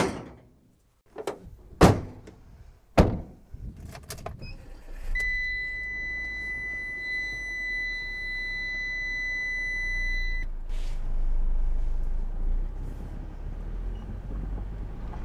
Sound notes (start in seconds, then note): 2.9 vehicle door slams close; 3.0 another vehicle door slams close; 4.4 vehicle engine starting